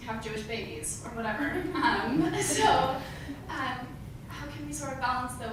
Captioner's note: laugh